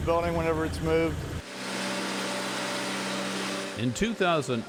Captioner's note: humming machinery